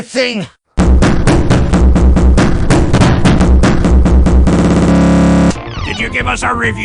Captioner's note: bass Boosted Nocking Noises Again